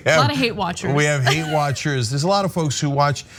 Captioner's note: laugh